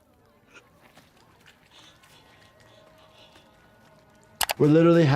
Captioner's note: breathes heavily